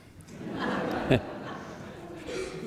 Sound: laughter

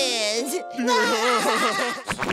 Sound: SpongeBob, Patrick laughing

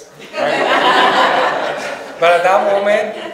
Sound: audience laughs

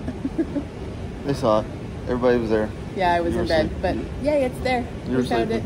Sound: laughing

